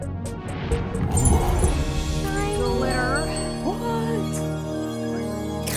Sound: gasps

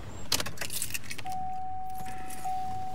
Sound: car ignition beeps

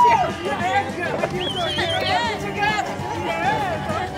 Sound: whistling; all cheering

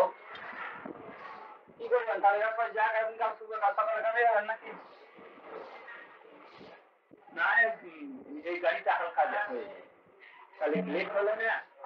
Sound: Hindi

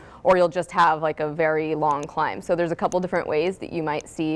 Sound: none

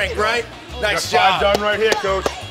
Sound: clapping

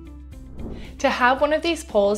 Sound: air whooshing

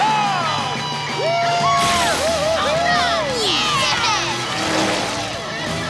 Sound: cheering

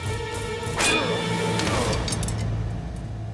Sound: Kılıç sesi

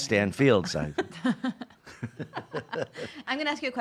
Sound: laughing

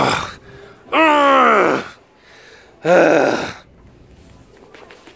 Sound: sounds of frustration

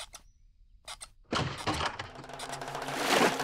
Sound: door opens

